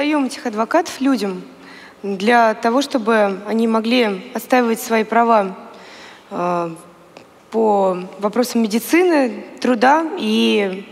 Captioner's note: foreign Language